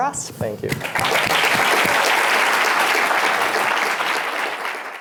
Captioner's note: applause